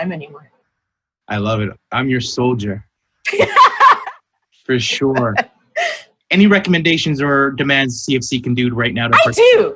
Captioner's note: laughter